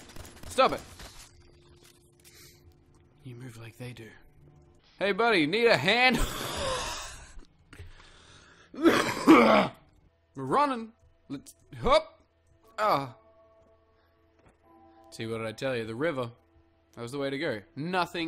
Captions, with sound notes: You move like they do. Hey buddy, need a hand?! *obnoxious airy laugh* *loud coughing*. We're runnin'! Let's - hop! Ah! What'd I tell you, the river! That was the way to go.